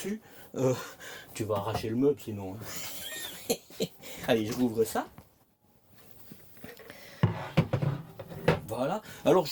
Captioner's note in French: rires